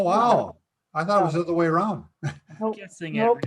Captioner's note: laughs